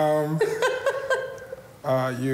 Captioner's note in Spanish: risas